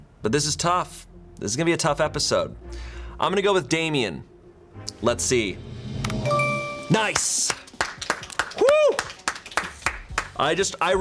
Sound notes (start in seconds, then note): 5.4 tense music building; 6.1 button clicks; 6.2 bell chimes; 6.9 crew members clapping